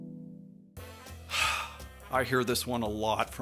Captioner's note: heavy sigh